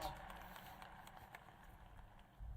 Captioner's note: applause